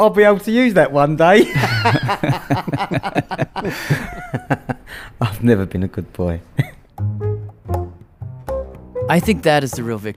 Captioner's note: laughs